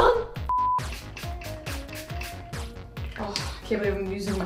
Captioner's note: vocalizing; spraying